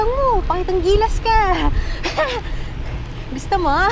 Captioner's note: laughs